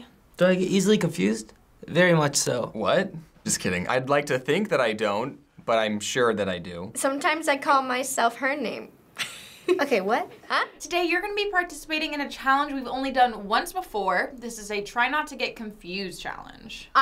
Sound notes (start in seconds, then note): 9.2 chuckles